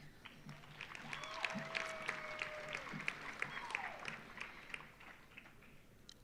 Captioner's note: audience applauding; audience cheering